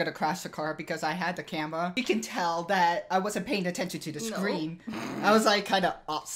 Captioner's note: snorts